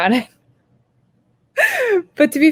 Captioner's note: laughs